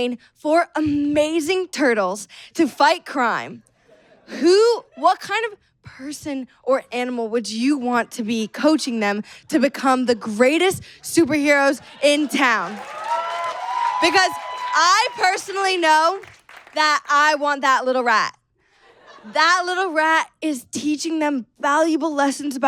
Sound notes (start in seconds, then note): 11.9 audience cheers and applauds